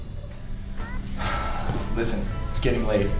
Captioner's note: Jim sighs